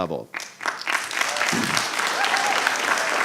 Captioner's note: applause